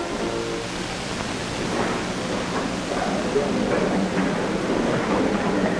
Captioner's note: crowd murmurs in background